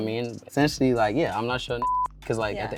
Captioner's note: beep